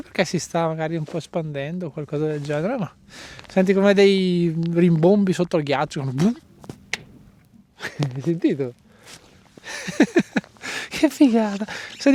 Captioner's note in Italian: risate